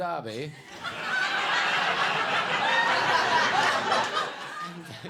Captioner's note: audience laughs